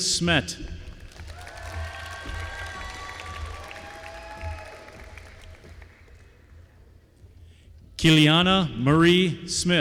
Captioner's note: applause